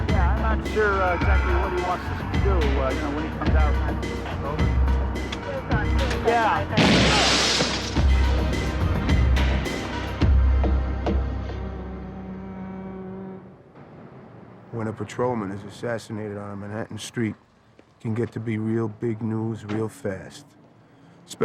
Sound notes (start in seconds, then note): 6.7 glass shattering; 6.8 gunshot blasting